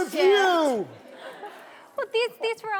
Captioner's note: audience laughing